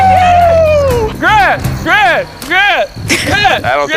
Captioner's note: chanting